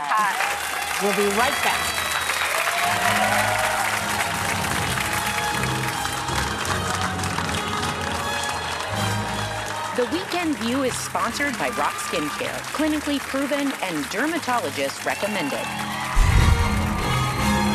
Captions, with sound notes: [APPLAUSE] We'll be right back. (audience applauding) The weekend view is sponsored by Roc Skincare, clinically proven and dermatologist recommended.